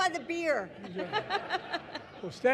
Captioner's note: laughter